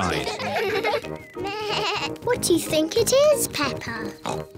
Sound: bleats; oinks

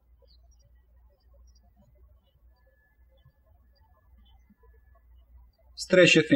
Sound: birds chirping

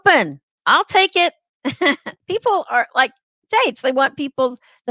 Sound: laughter

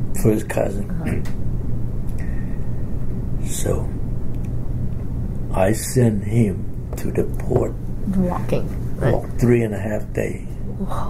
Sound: coughs

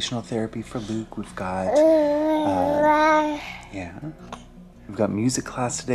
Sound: baby mumbling

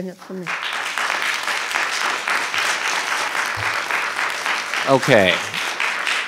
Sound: audience applauding

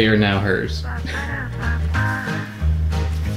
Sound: man laughs; bag rustles

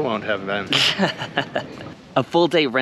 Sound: laughs

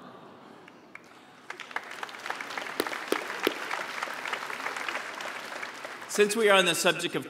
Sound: applause

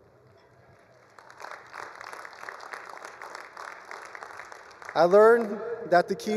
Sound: attendees applauding

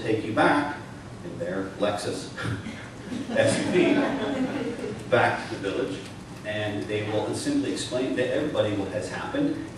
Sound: laughter

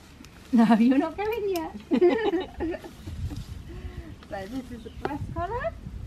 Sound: laughs

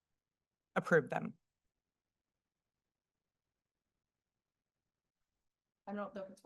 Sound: silence

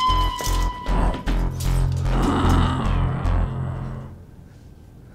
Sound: zombie growls

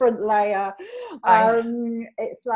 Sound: laughs

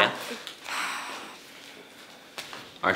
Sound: sighs

